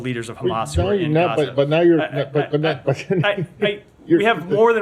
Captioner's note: laughter